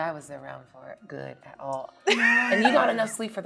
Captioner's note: laughing